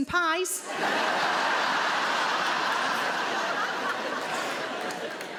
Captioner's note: audience laughing